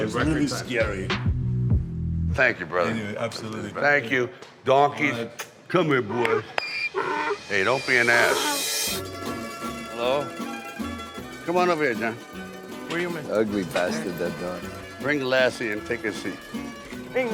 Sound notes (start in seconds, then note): 6.8 donkey braying; 9.0 mellow Italian music